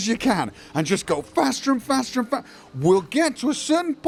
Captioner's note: slurred